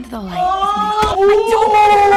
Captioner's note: grunt; dry heaving